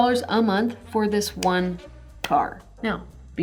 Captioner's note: claps hands